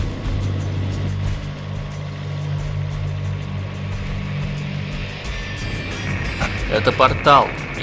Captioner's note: helicopter noise